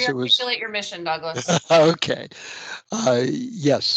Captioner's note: laughs